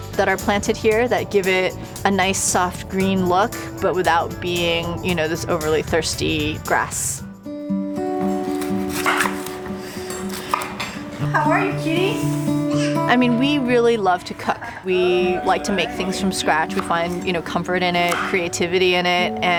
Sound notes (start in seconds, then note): 7.4 guitar folk music; 8.4 knife chopping